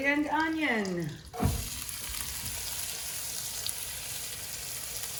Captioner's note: onion sizzling